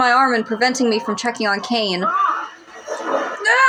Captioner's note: Caine Shouts